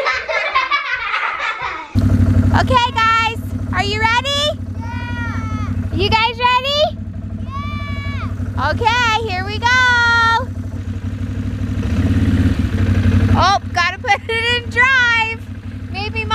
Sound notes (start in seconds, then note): 0.0 girls laughing; 11.3 engine running